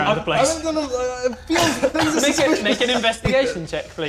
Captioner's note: more incoherent wailing